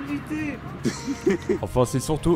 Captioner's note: laughs